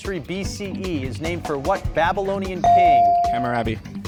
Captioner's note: bell rings